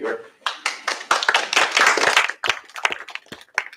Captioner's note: applause